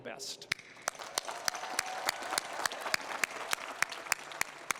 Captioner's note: applause